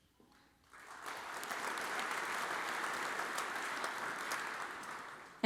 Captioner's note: audience applauds